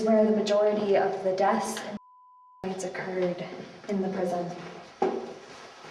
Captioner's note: beeping